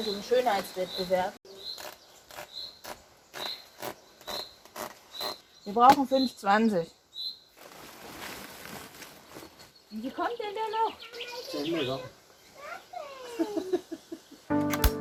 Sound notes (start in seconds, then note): 13.3 laughs